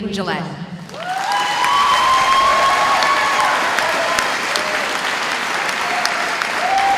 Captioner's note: audience applauding